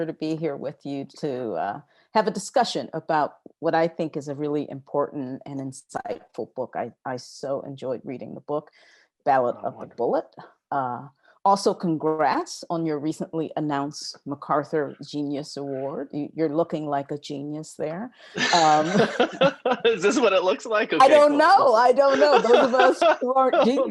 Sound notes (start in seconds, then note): 18.4 laughs